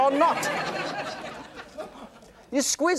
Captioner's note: laughter